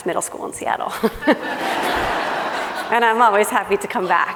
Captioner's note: laughing